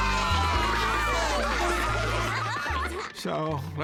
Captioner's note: students cheering